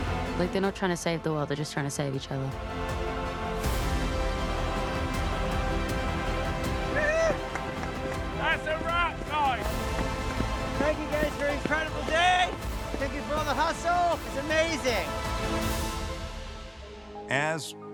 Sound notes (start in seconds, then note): 7.3 crew whoops, claps; 9.7 crew clapping